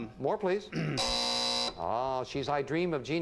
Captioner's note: buzzer sounds